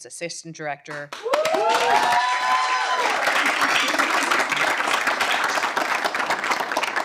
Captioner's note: audience cheering and applauding